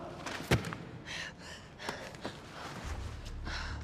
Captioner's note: breathing heavily